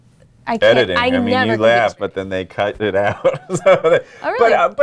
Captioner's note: laughs